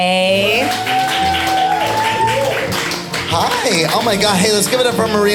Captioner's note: audience cheering